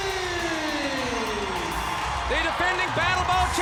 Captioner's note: audience applauds and cheers